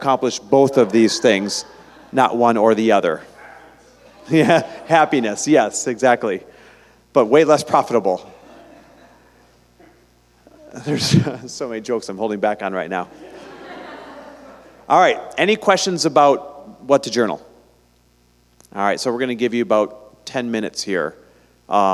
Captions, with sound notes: both of these things, not one or the other. (Group laughter) Happiness, yes, exactly, but way less profitable. (laughter) There's so many jokes I'm holding back on right now! Alright, any questions about what to journal? Alright, so were gonna give you about ten minutes here